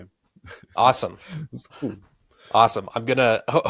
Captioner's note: chuckling